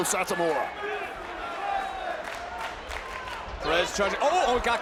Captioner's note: applause